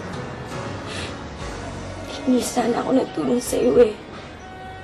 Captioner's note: cries